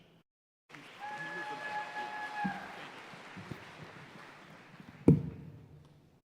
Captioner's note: audience cheering and applauding